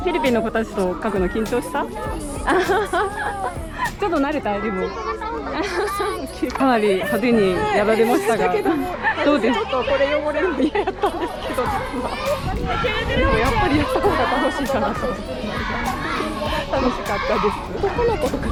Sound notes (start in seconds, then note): 12.8 laughs